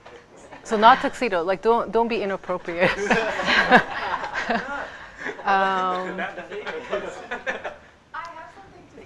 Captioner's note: students laugh